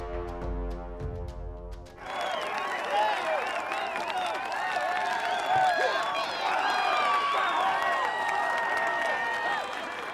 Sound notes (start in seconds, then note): 1.9 crowd cheering